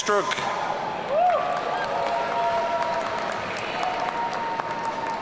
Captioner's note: audience cheering